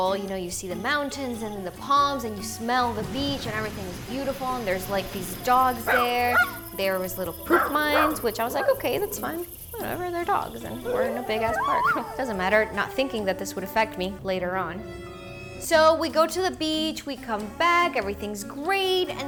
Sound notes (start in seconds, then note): 5.7 dogs barking; 14.7 dramatic music